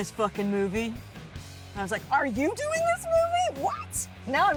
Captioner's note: in normal voice